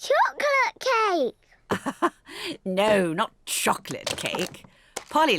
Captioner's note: laughs